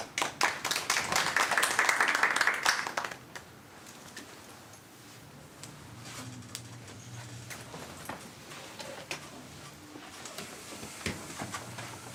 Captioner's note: applause